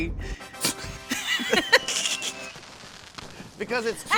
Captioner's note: both laugh